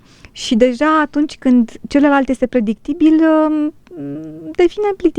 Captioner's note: snoring